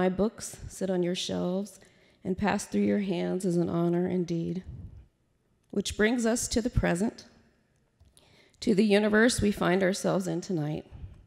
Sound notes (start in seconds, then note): none